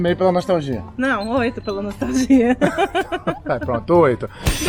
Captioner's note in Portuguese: risada